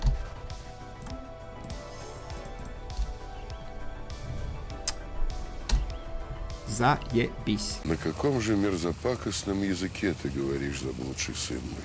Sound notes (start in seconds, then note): 6.7 in russin